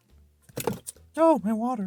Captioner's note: cup falls